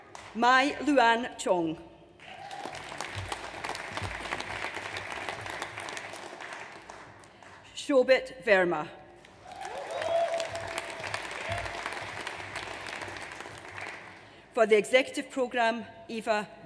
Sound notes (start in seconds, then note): 2.2 audience applauds; 9.2 audience applauds